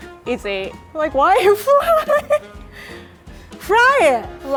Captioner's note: laughing